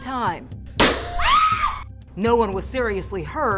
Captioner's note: gun shot banging